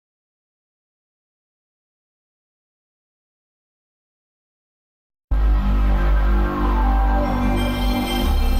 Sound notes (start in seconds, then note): 0.0 silence; 5.4 console startup music plays